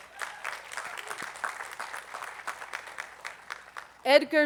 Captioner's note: attendees applauding